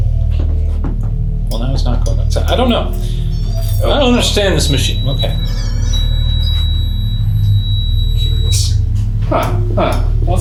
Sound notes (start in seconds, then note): 3.0 REM-pod beeping